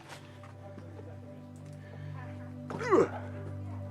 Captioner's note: speaker laughs